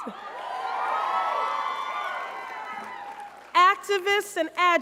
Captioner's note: crowd cheers